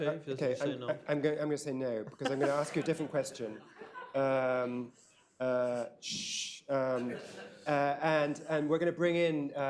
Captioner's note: laughter